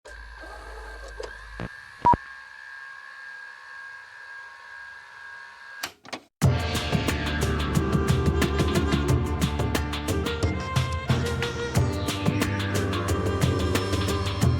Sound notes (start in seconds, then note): 0.6 beeping; 6.4 upbeat music